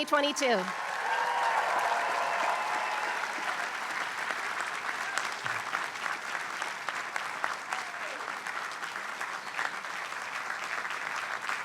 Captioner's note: applause